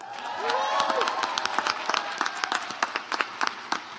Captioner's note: audience applauds